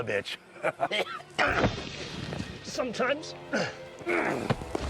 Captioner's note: laughs; grunts; dramatic music